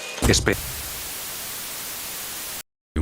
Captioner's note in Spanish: Estática